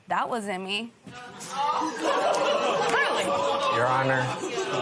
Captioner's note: laughter